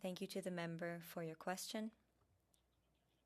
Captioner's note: speaking French